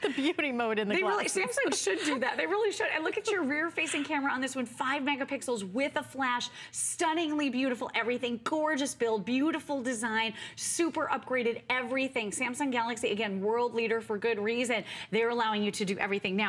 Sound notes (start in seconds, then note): 0.9 laughter